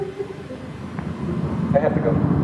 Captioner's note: girls singing children's song; large WWII aircraft sounds